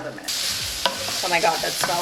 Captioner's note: bacon sizzling